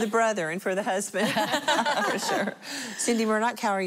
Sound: laughter

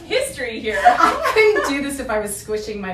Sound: laughing

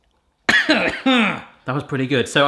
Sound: coughs

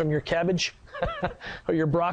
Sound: laughs

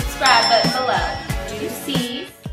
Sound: bell dings

